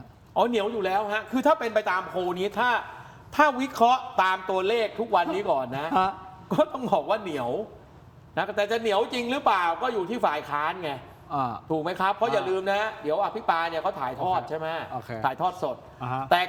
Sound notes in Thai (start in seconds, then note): 5.5 เสียงหัวเราะ